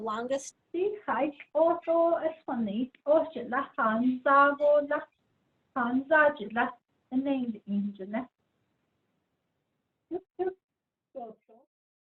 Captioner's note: speaking in Diné